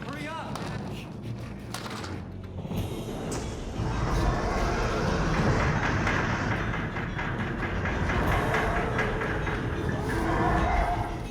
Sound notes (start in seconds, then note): 3.1 roars; 4.2 dramatic music